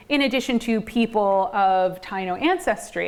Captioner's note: none